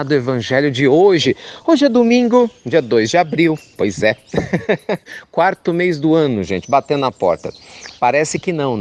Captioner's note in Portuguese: Risos